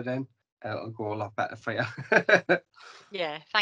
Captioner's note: laughs